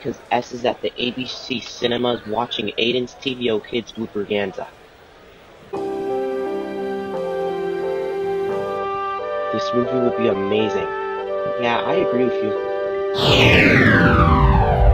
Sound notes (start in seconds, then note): 13.1 lights powering down